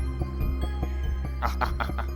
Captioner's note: laughing